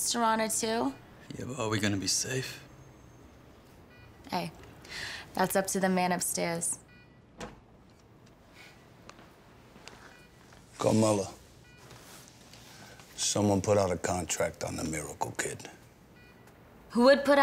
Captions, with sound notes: -Yeah - but, are we going to be safe? -Hey - that's up to the man upstairs. [door opening] -Carmela. Someone put out a contract on the miracle kid. -Who would put out a contract on a kid?